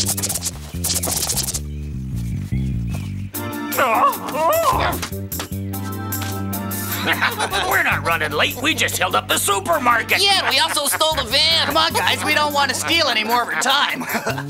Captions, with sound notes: (fruit whooshing) (owl yelling) (laughing) - We're not running late. We just held up the supermarket! - Yeah, we also stole the van. - Come on guys. We don't to steal any more of her time.